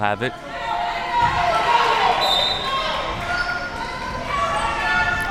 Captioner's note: crowd cheering